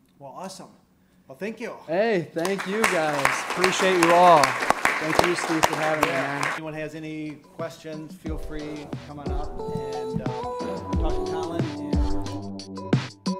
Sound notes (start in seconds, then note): 2.4 applause; 13.1 upbeat music